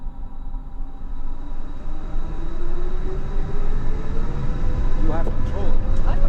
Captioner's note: engine sound